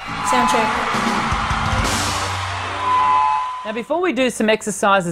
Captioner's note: audience applauding and cheering